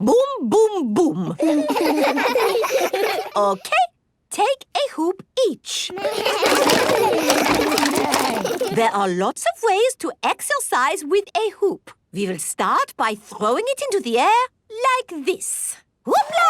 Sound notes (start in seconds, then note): 1.4 laughs; 6.0 all laugh